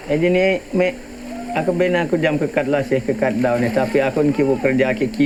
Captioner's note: speaking in foreign language